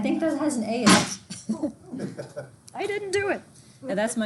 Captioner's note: object clanks; laughing